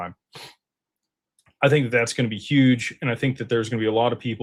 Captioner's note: snorts